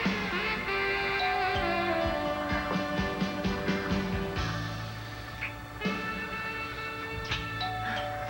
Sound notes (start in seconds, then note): 2.7 doorbell rings